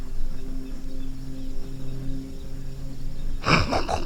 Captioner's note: bird noise; imitating pig noise